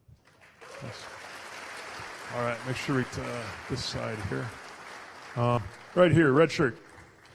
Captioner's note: applause